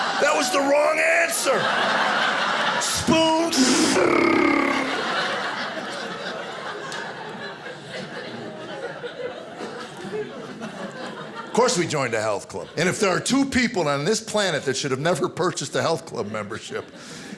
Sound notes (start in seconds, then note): 3.6 imitating spoons flying